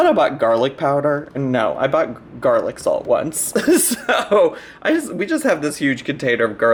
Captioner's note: laughs